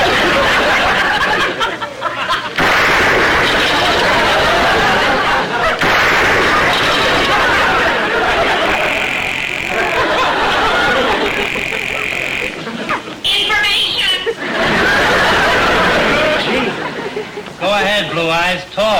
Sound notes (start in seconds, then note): 2.6 gunshot; 5.8 gunshot; 8.5 phone ringing; 14.0 audience laughter